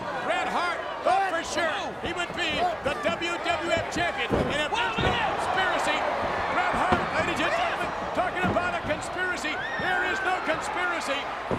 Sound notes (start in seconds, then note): 4.2 crowd cheering; 4.2 overlapping chatter